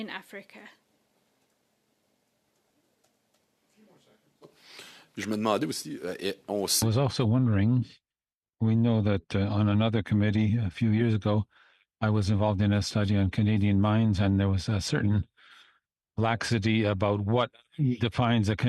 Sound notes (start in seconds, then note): 11.8 speaking French